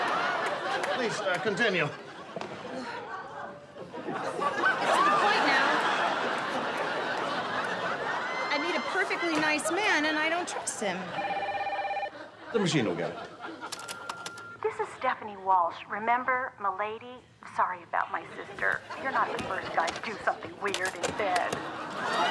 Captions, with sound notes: Please, uh, continue. It's to the point now... I meet a perfectly nice man, and I don't trust him. ( phone rings ) The machine'll get it. ( machine beeps ) This is Stephanie Walsh. Remember? Milady? Sorry about my sister. You're not the first guy to do something weird in bed.